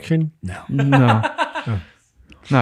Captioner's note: innocent laughing